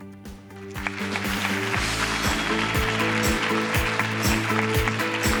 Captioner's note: audience applause